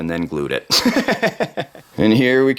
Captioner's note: laughing